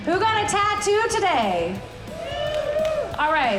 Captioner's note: audience applauds